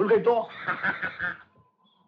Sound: laughing

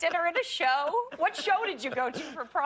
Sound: laughter

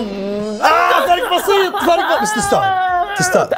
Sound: shouts; cheers

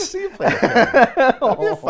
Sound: laughs

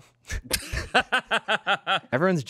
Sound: laughs

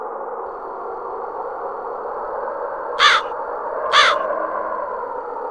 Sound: wind blowing

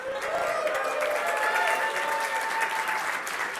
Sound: cheering

